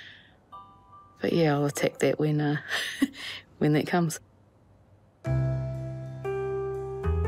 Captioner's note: chuckles; relaxed music